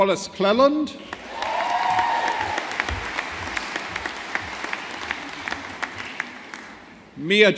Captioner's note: audience applauding